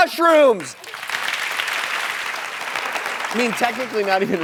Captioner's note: audience applauds